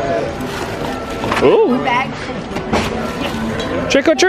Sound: bag rustling

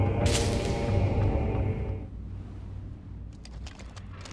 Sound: electrical wires zapping

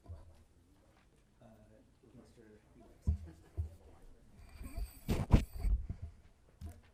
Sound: audience chuckles

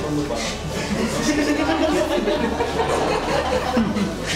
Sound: laughter

